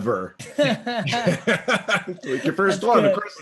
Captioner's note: laughing